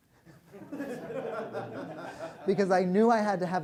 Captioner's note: laughter